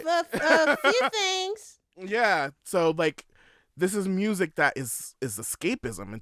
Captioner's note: laughter